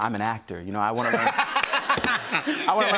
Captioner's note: laughter